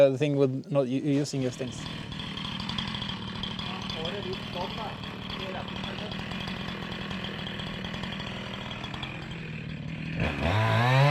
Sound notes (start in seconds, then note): 2.4 engine revving; 11.0 engine revving